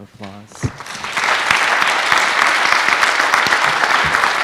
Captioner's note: applause